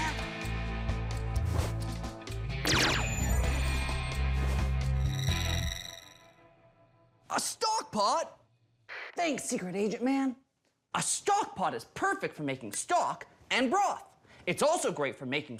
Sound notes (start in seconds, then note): 1.1 radio; 2.6 laser sfx